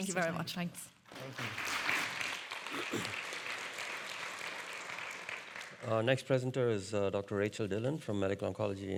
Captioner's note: audience applauding